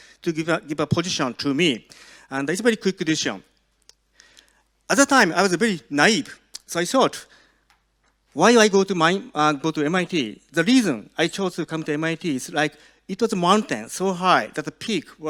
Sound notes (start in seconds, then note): none